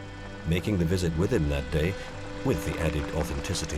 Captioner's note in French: Moteur du véhicule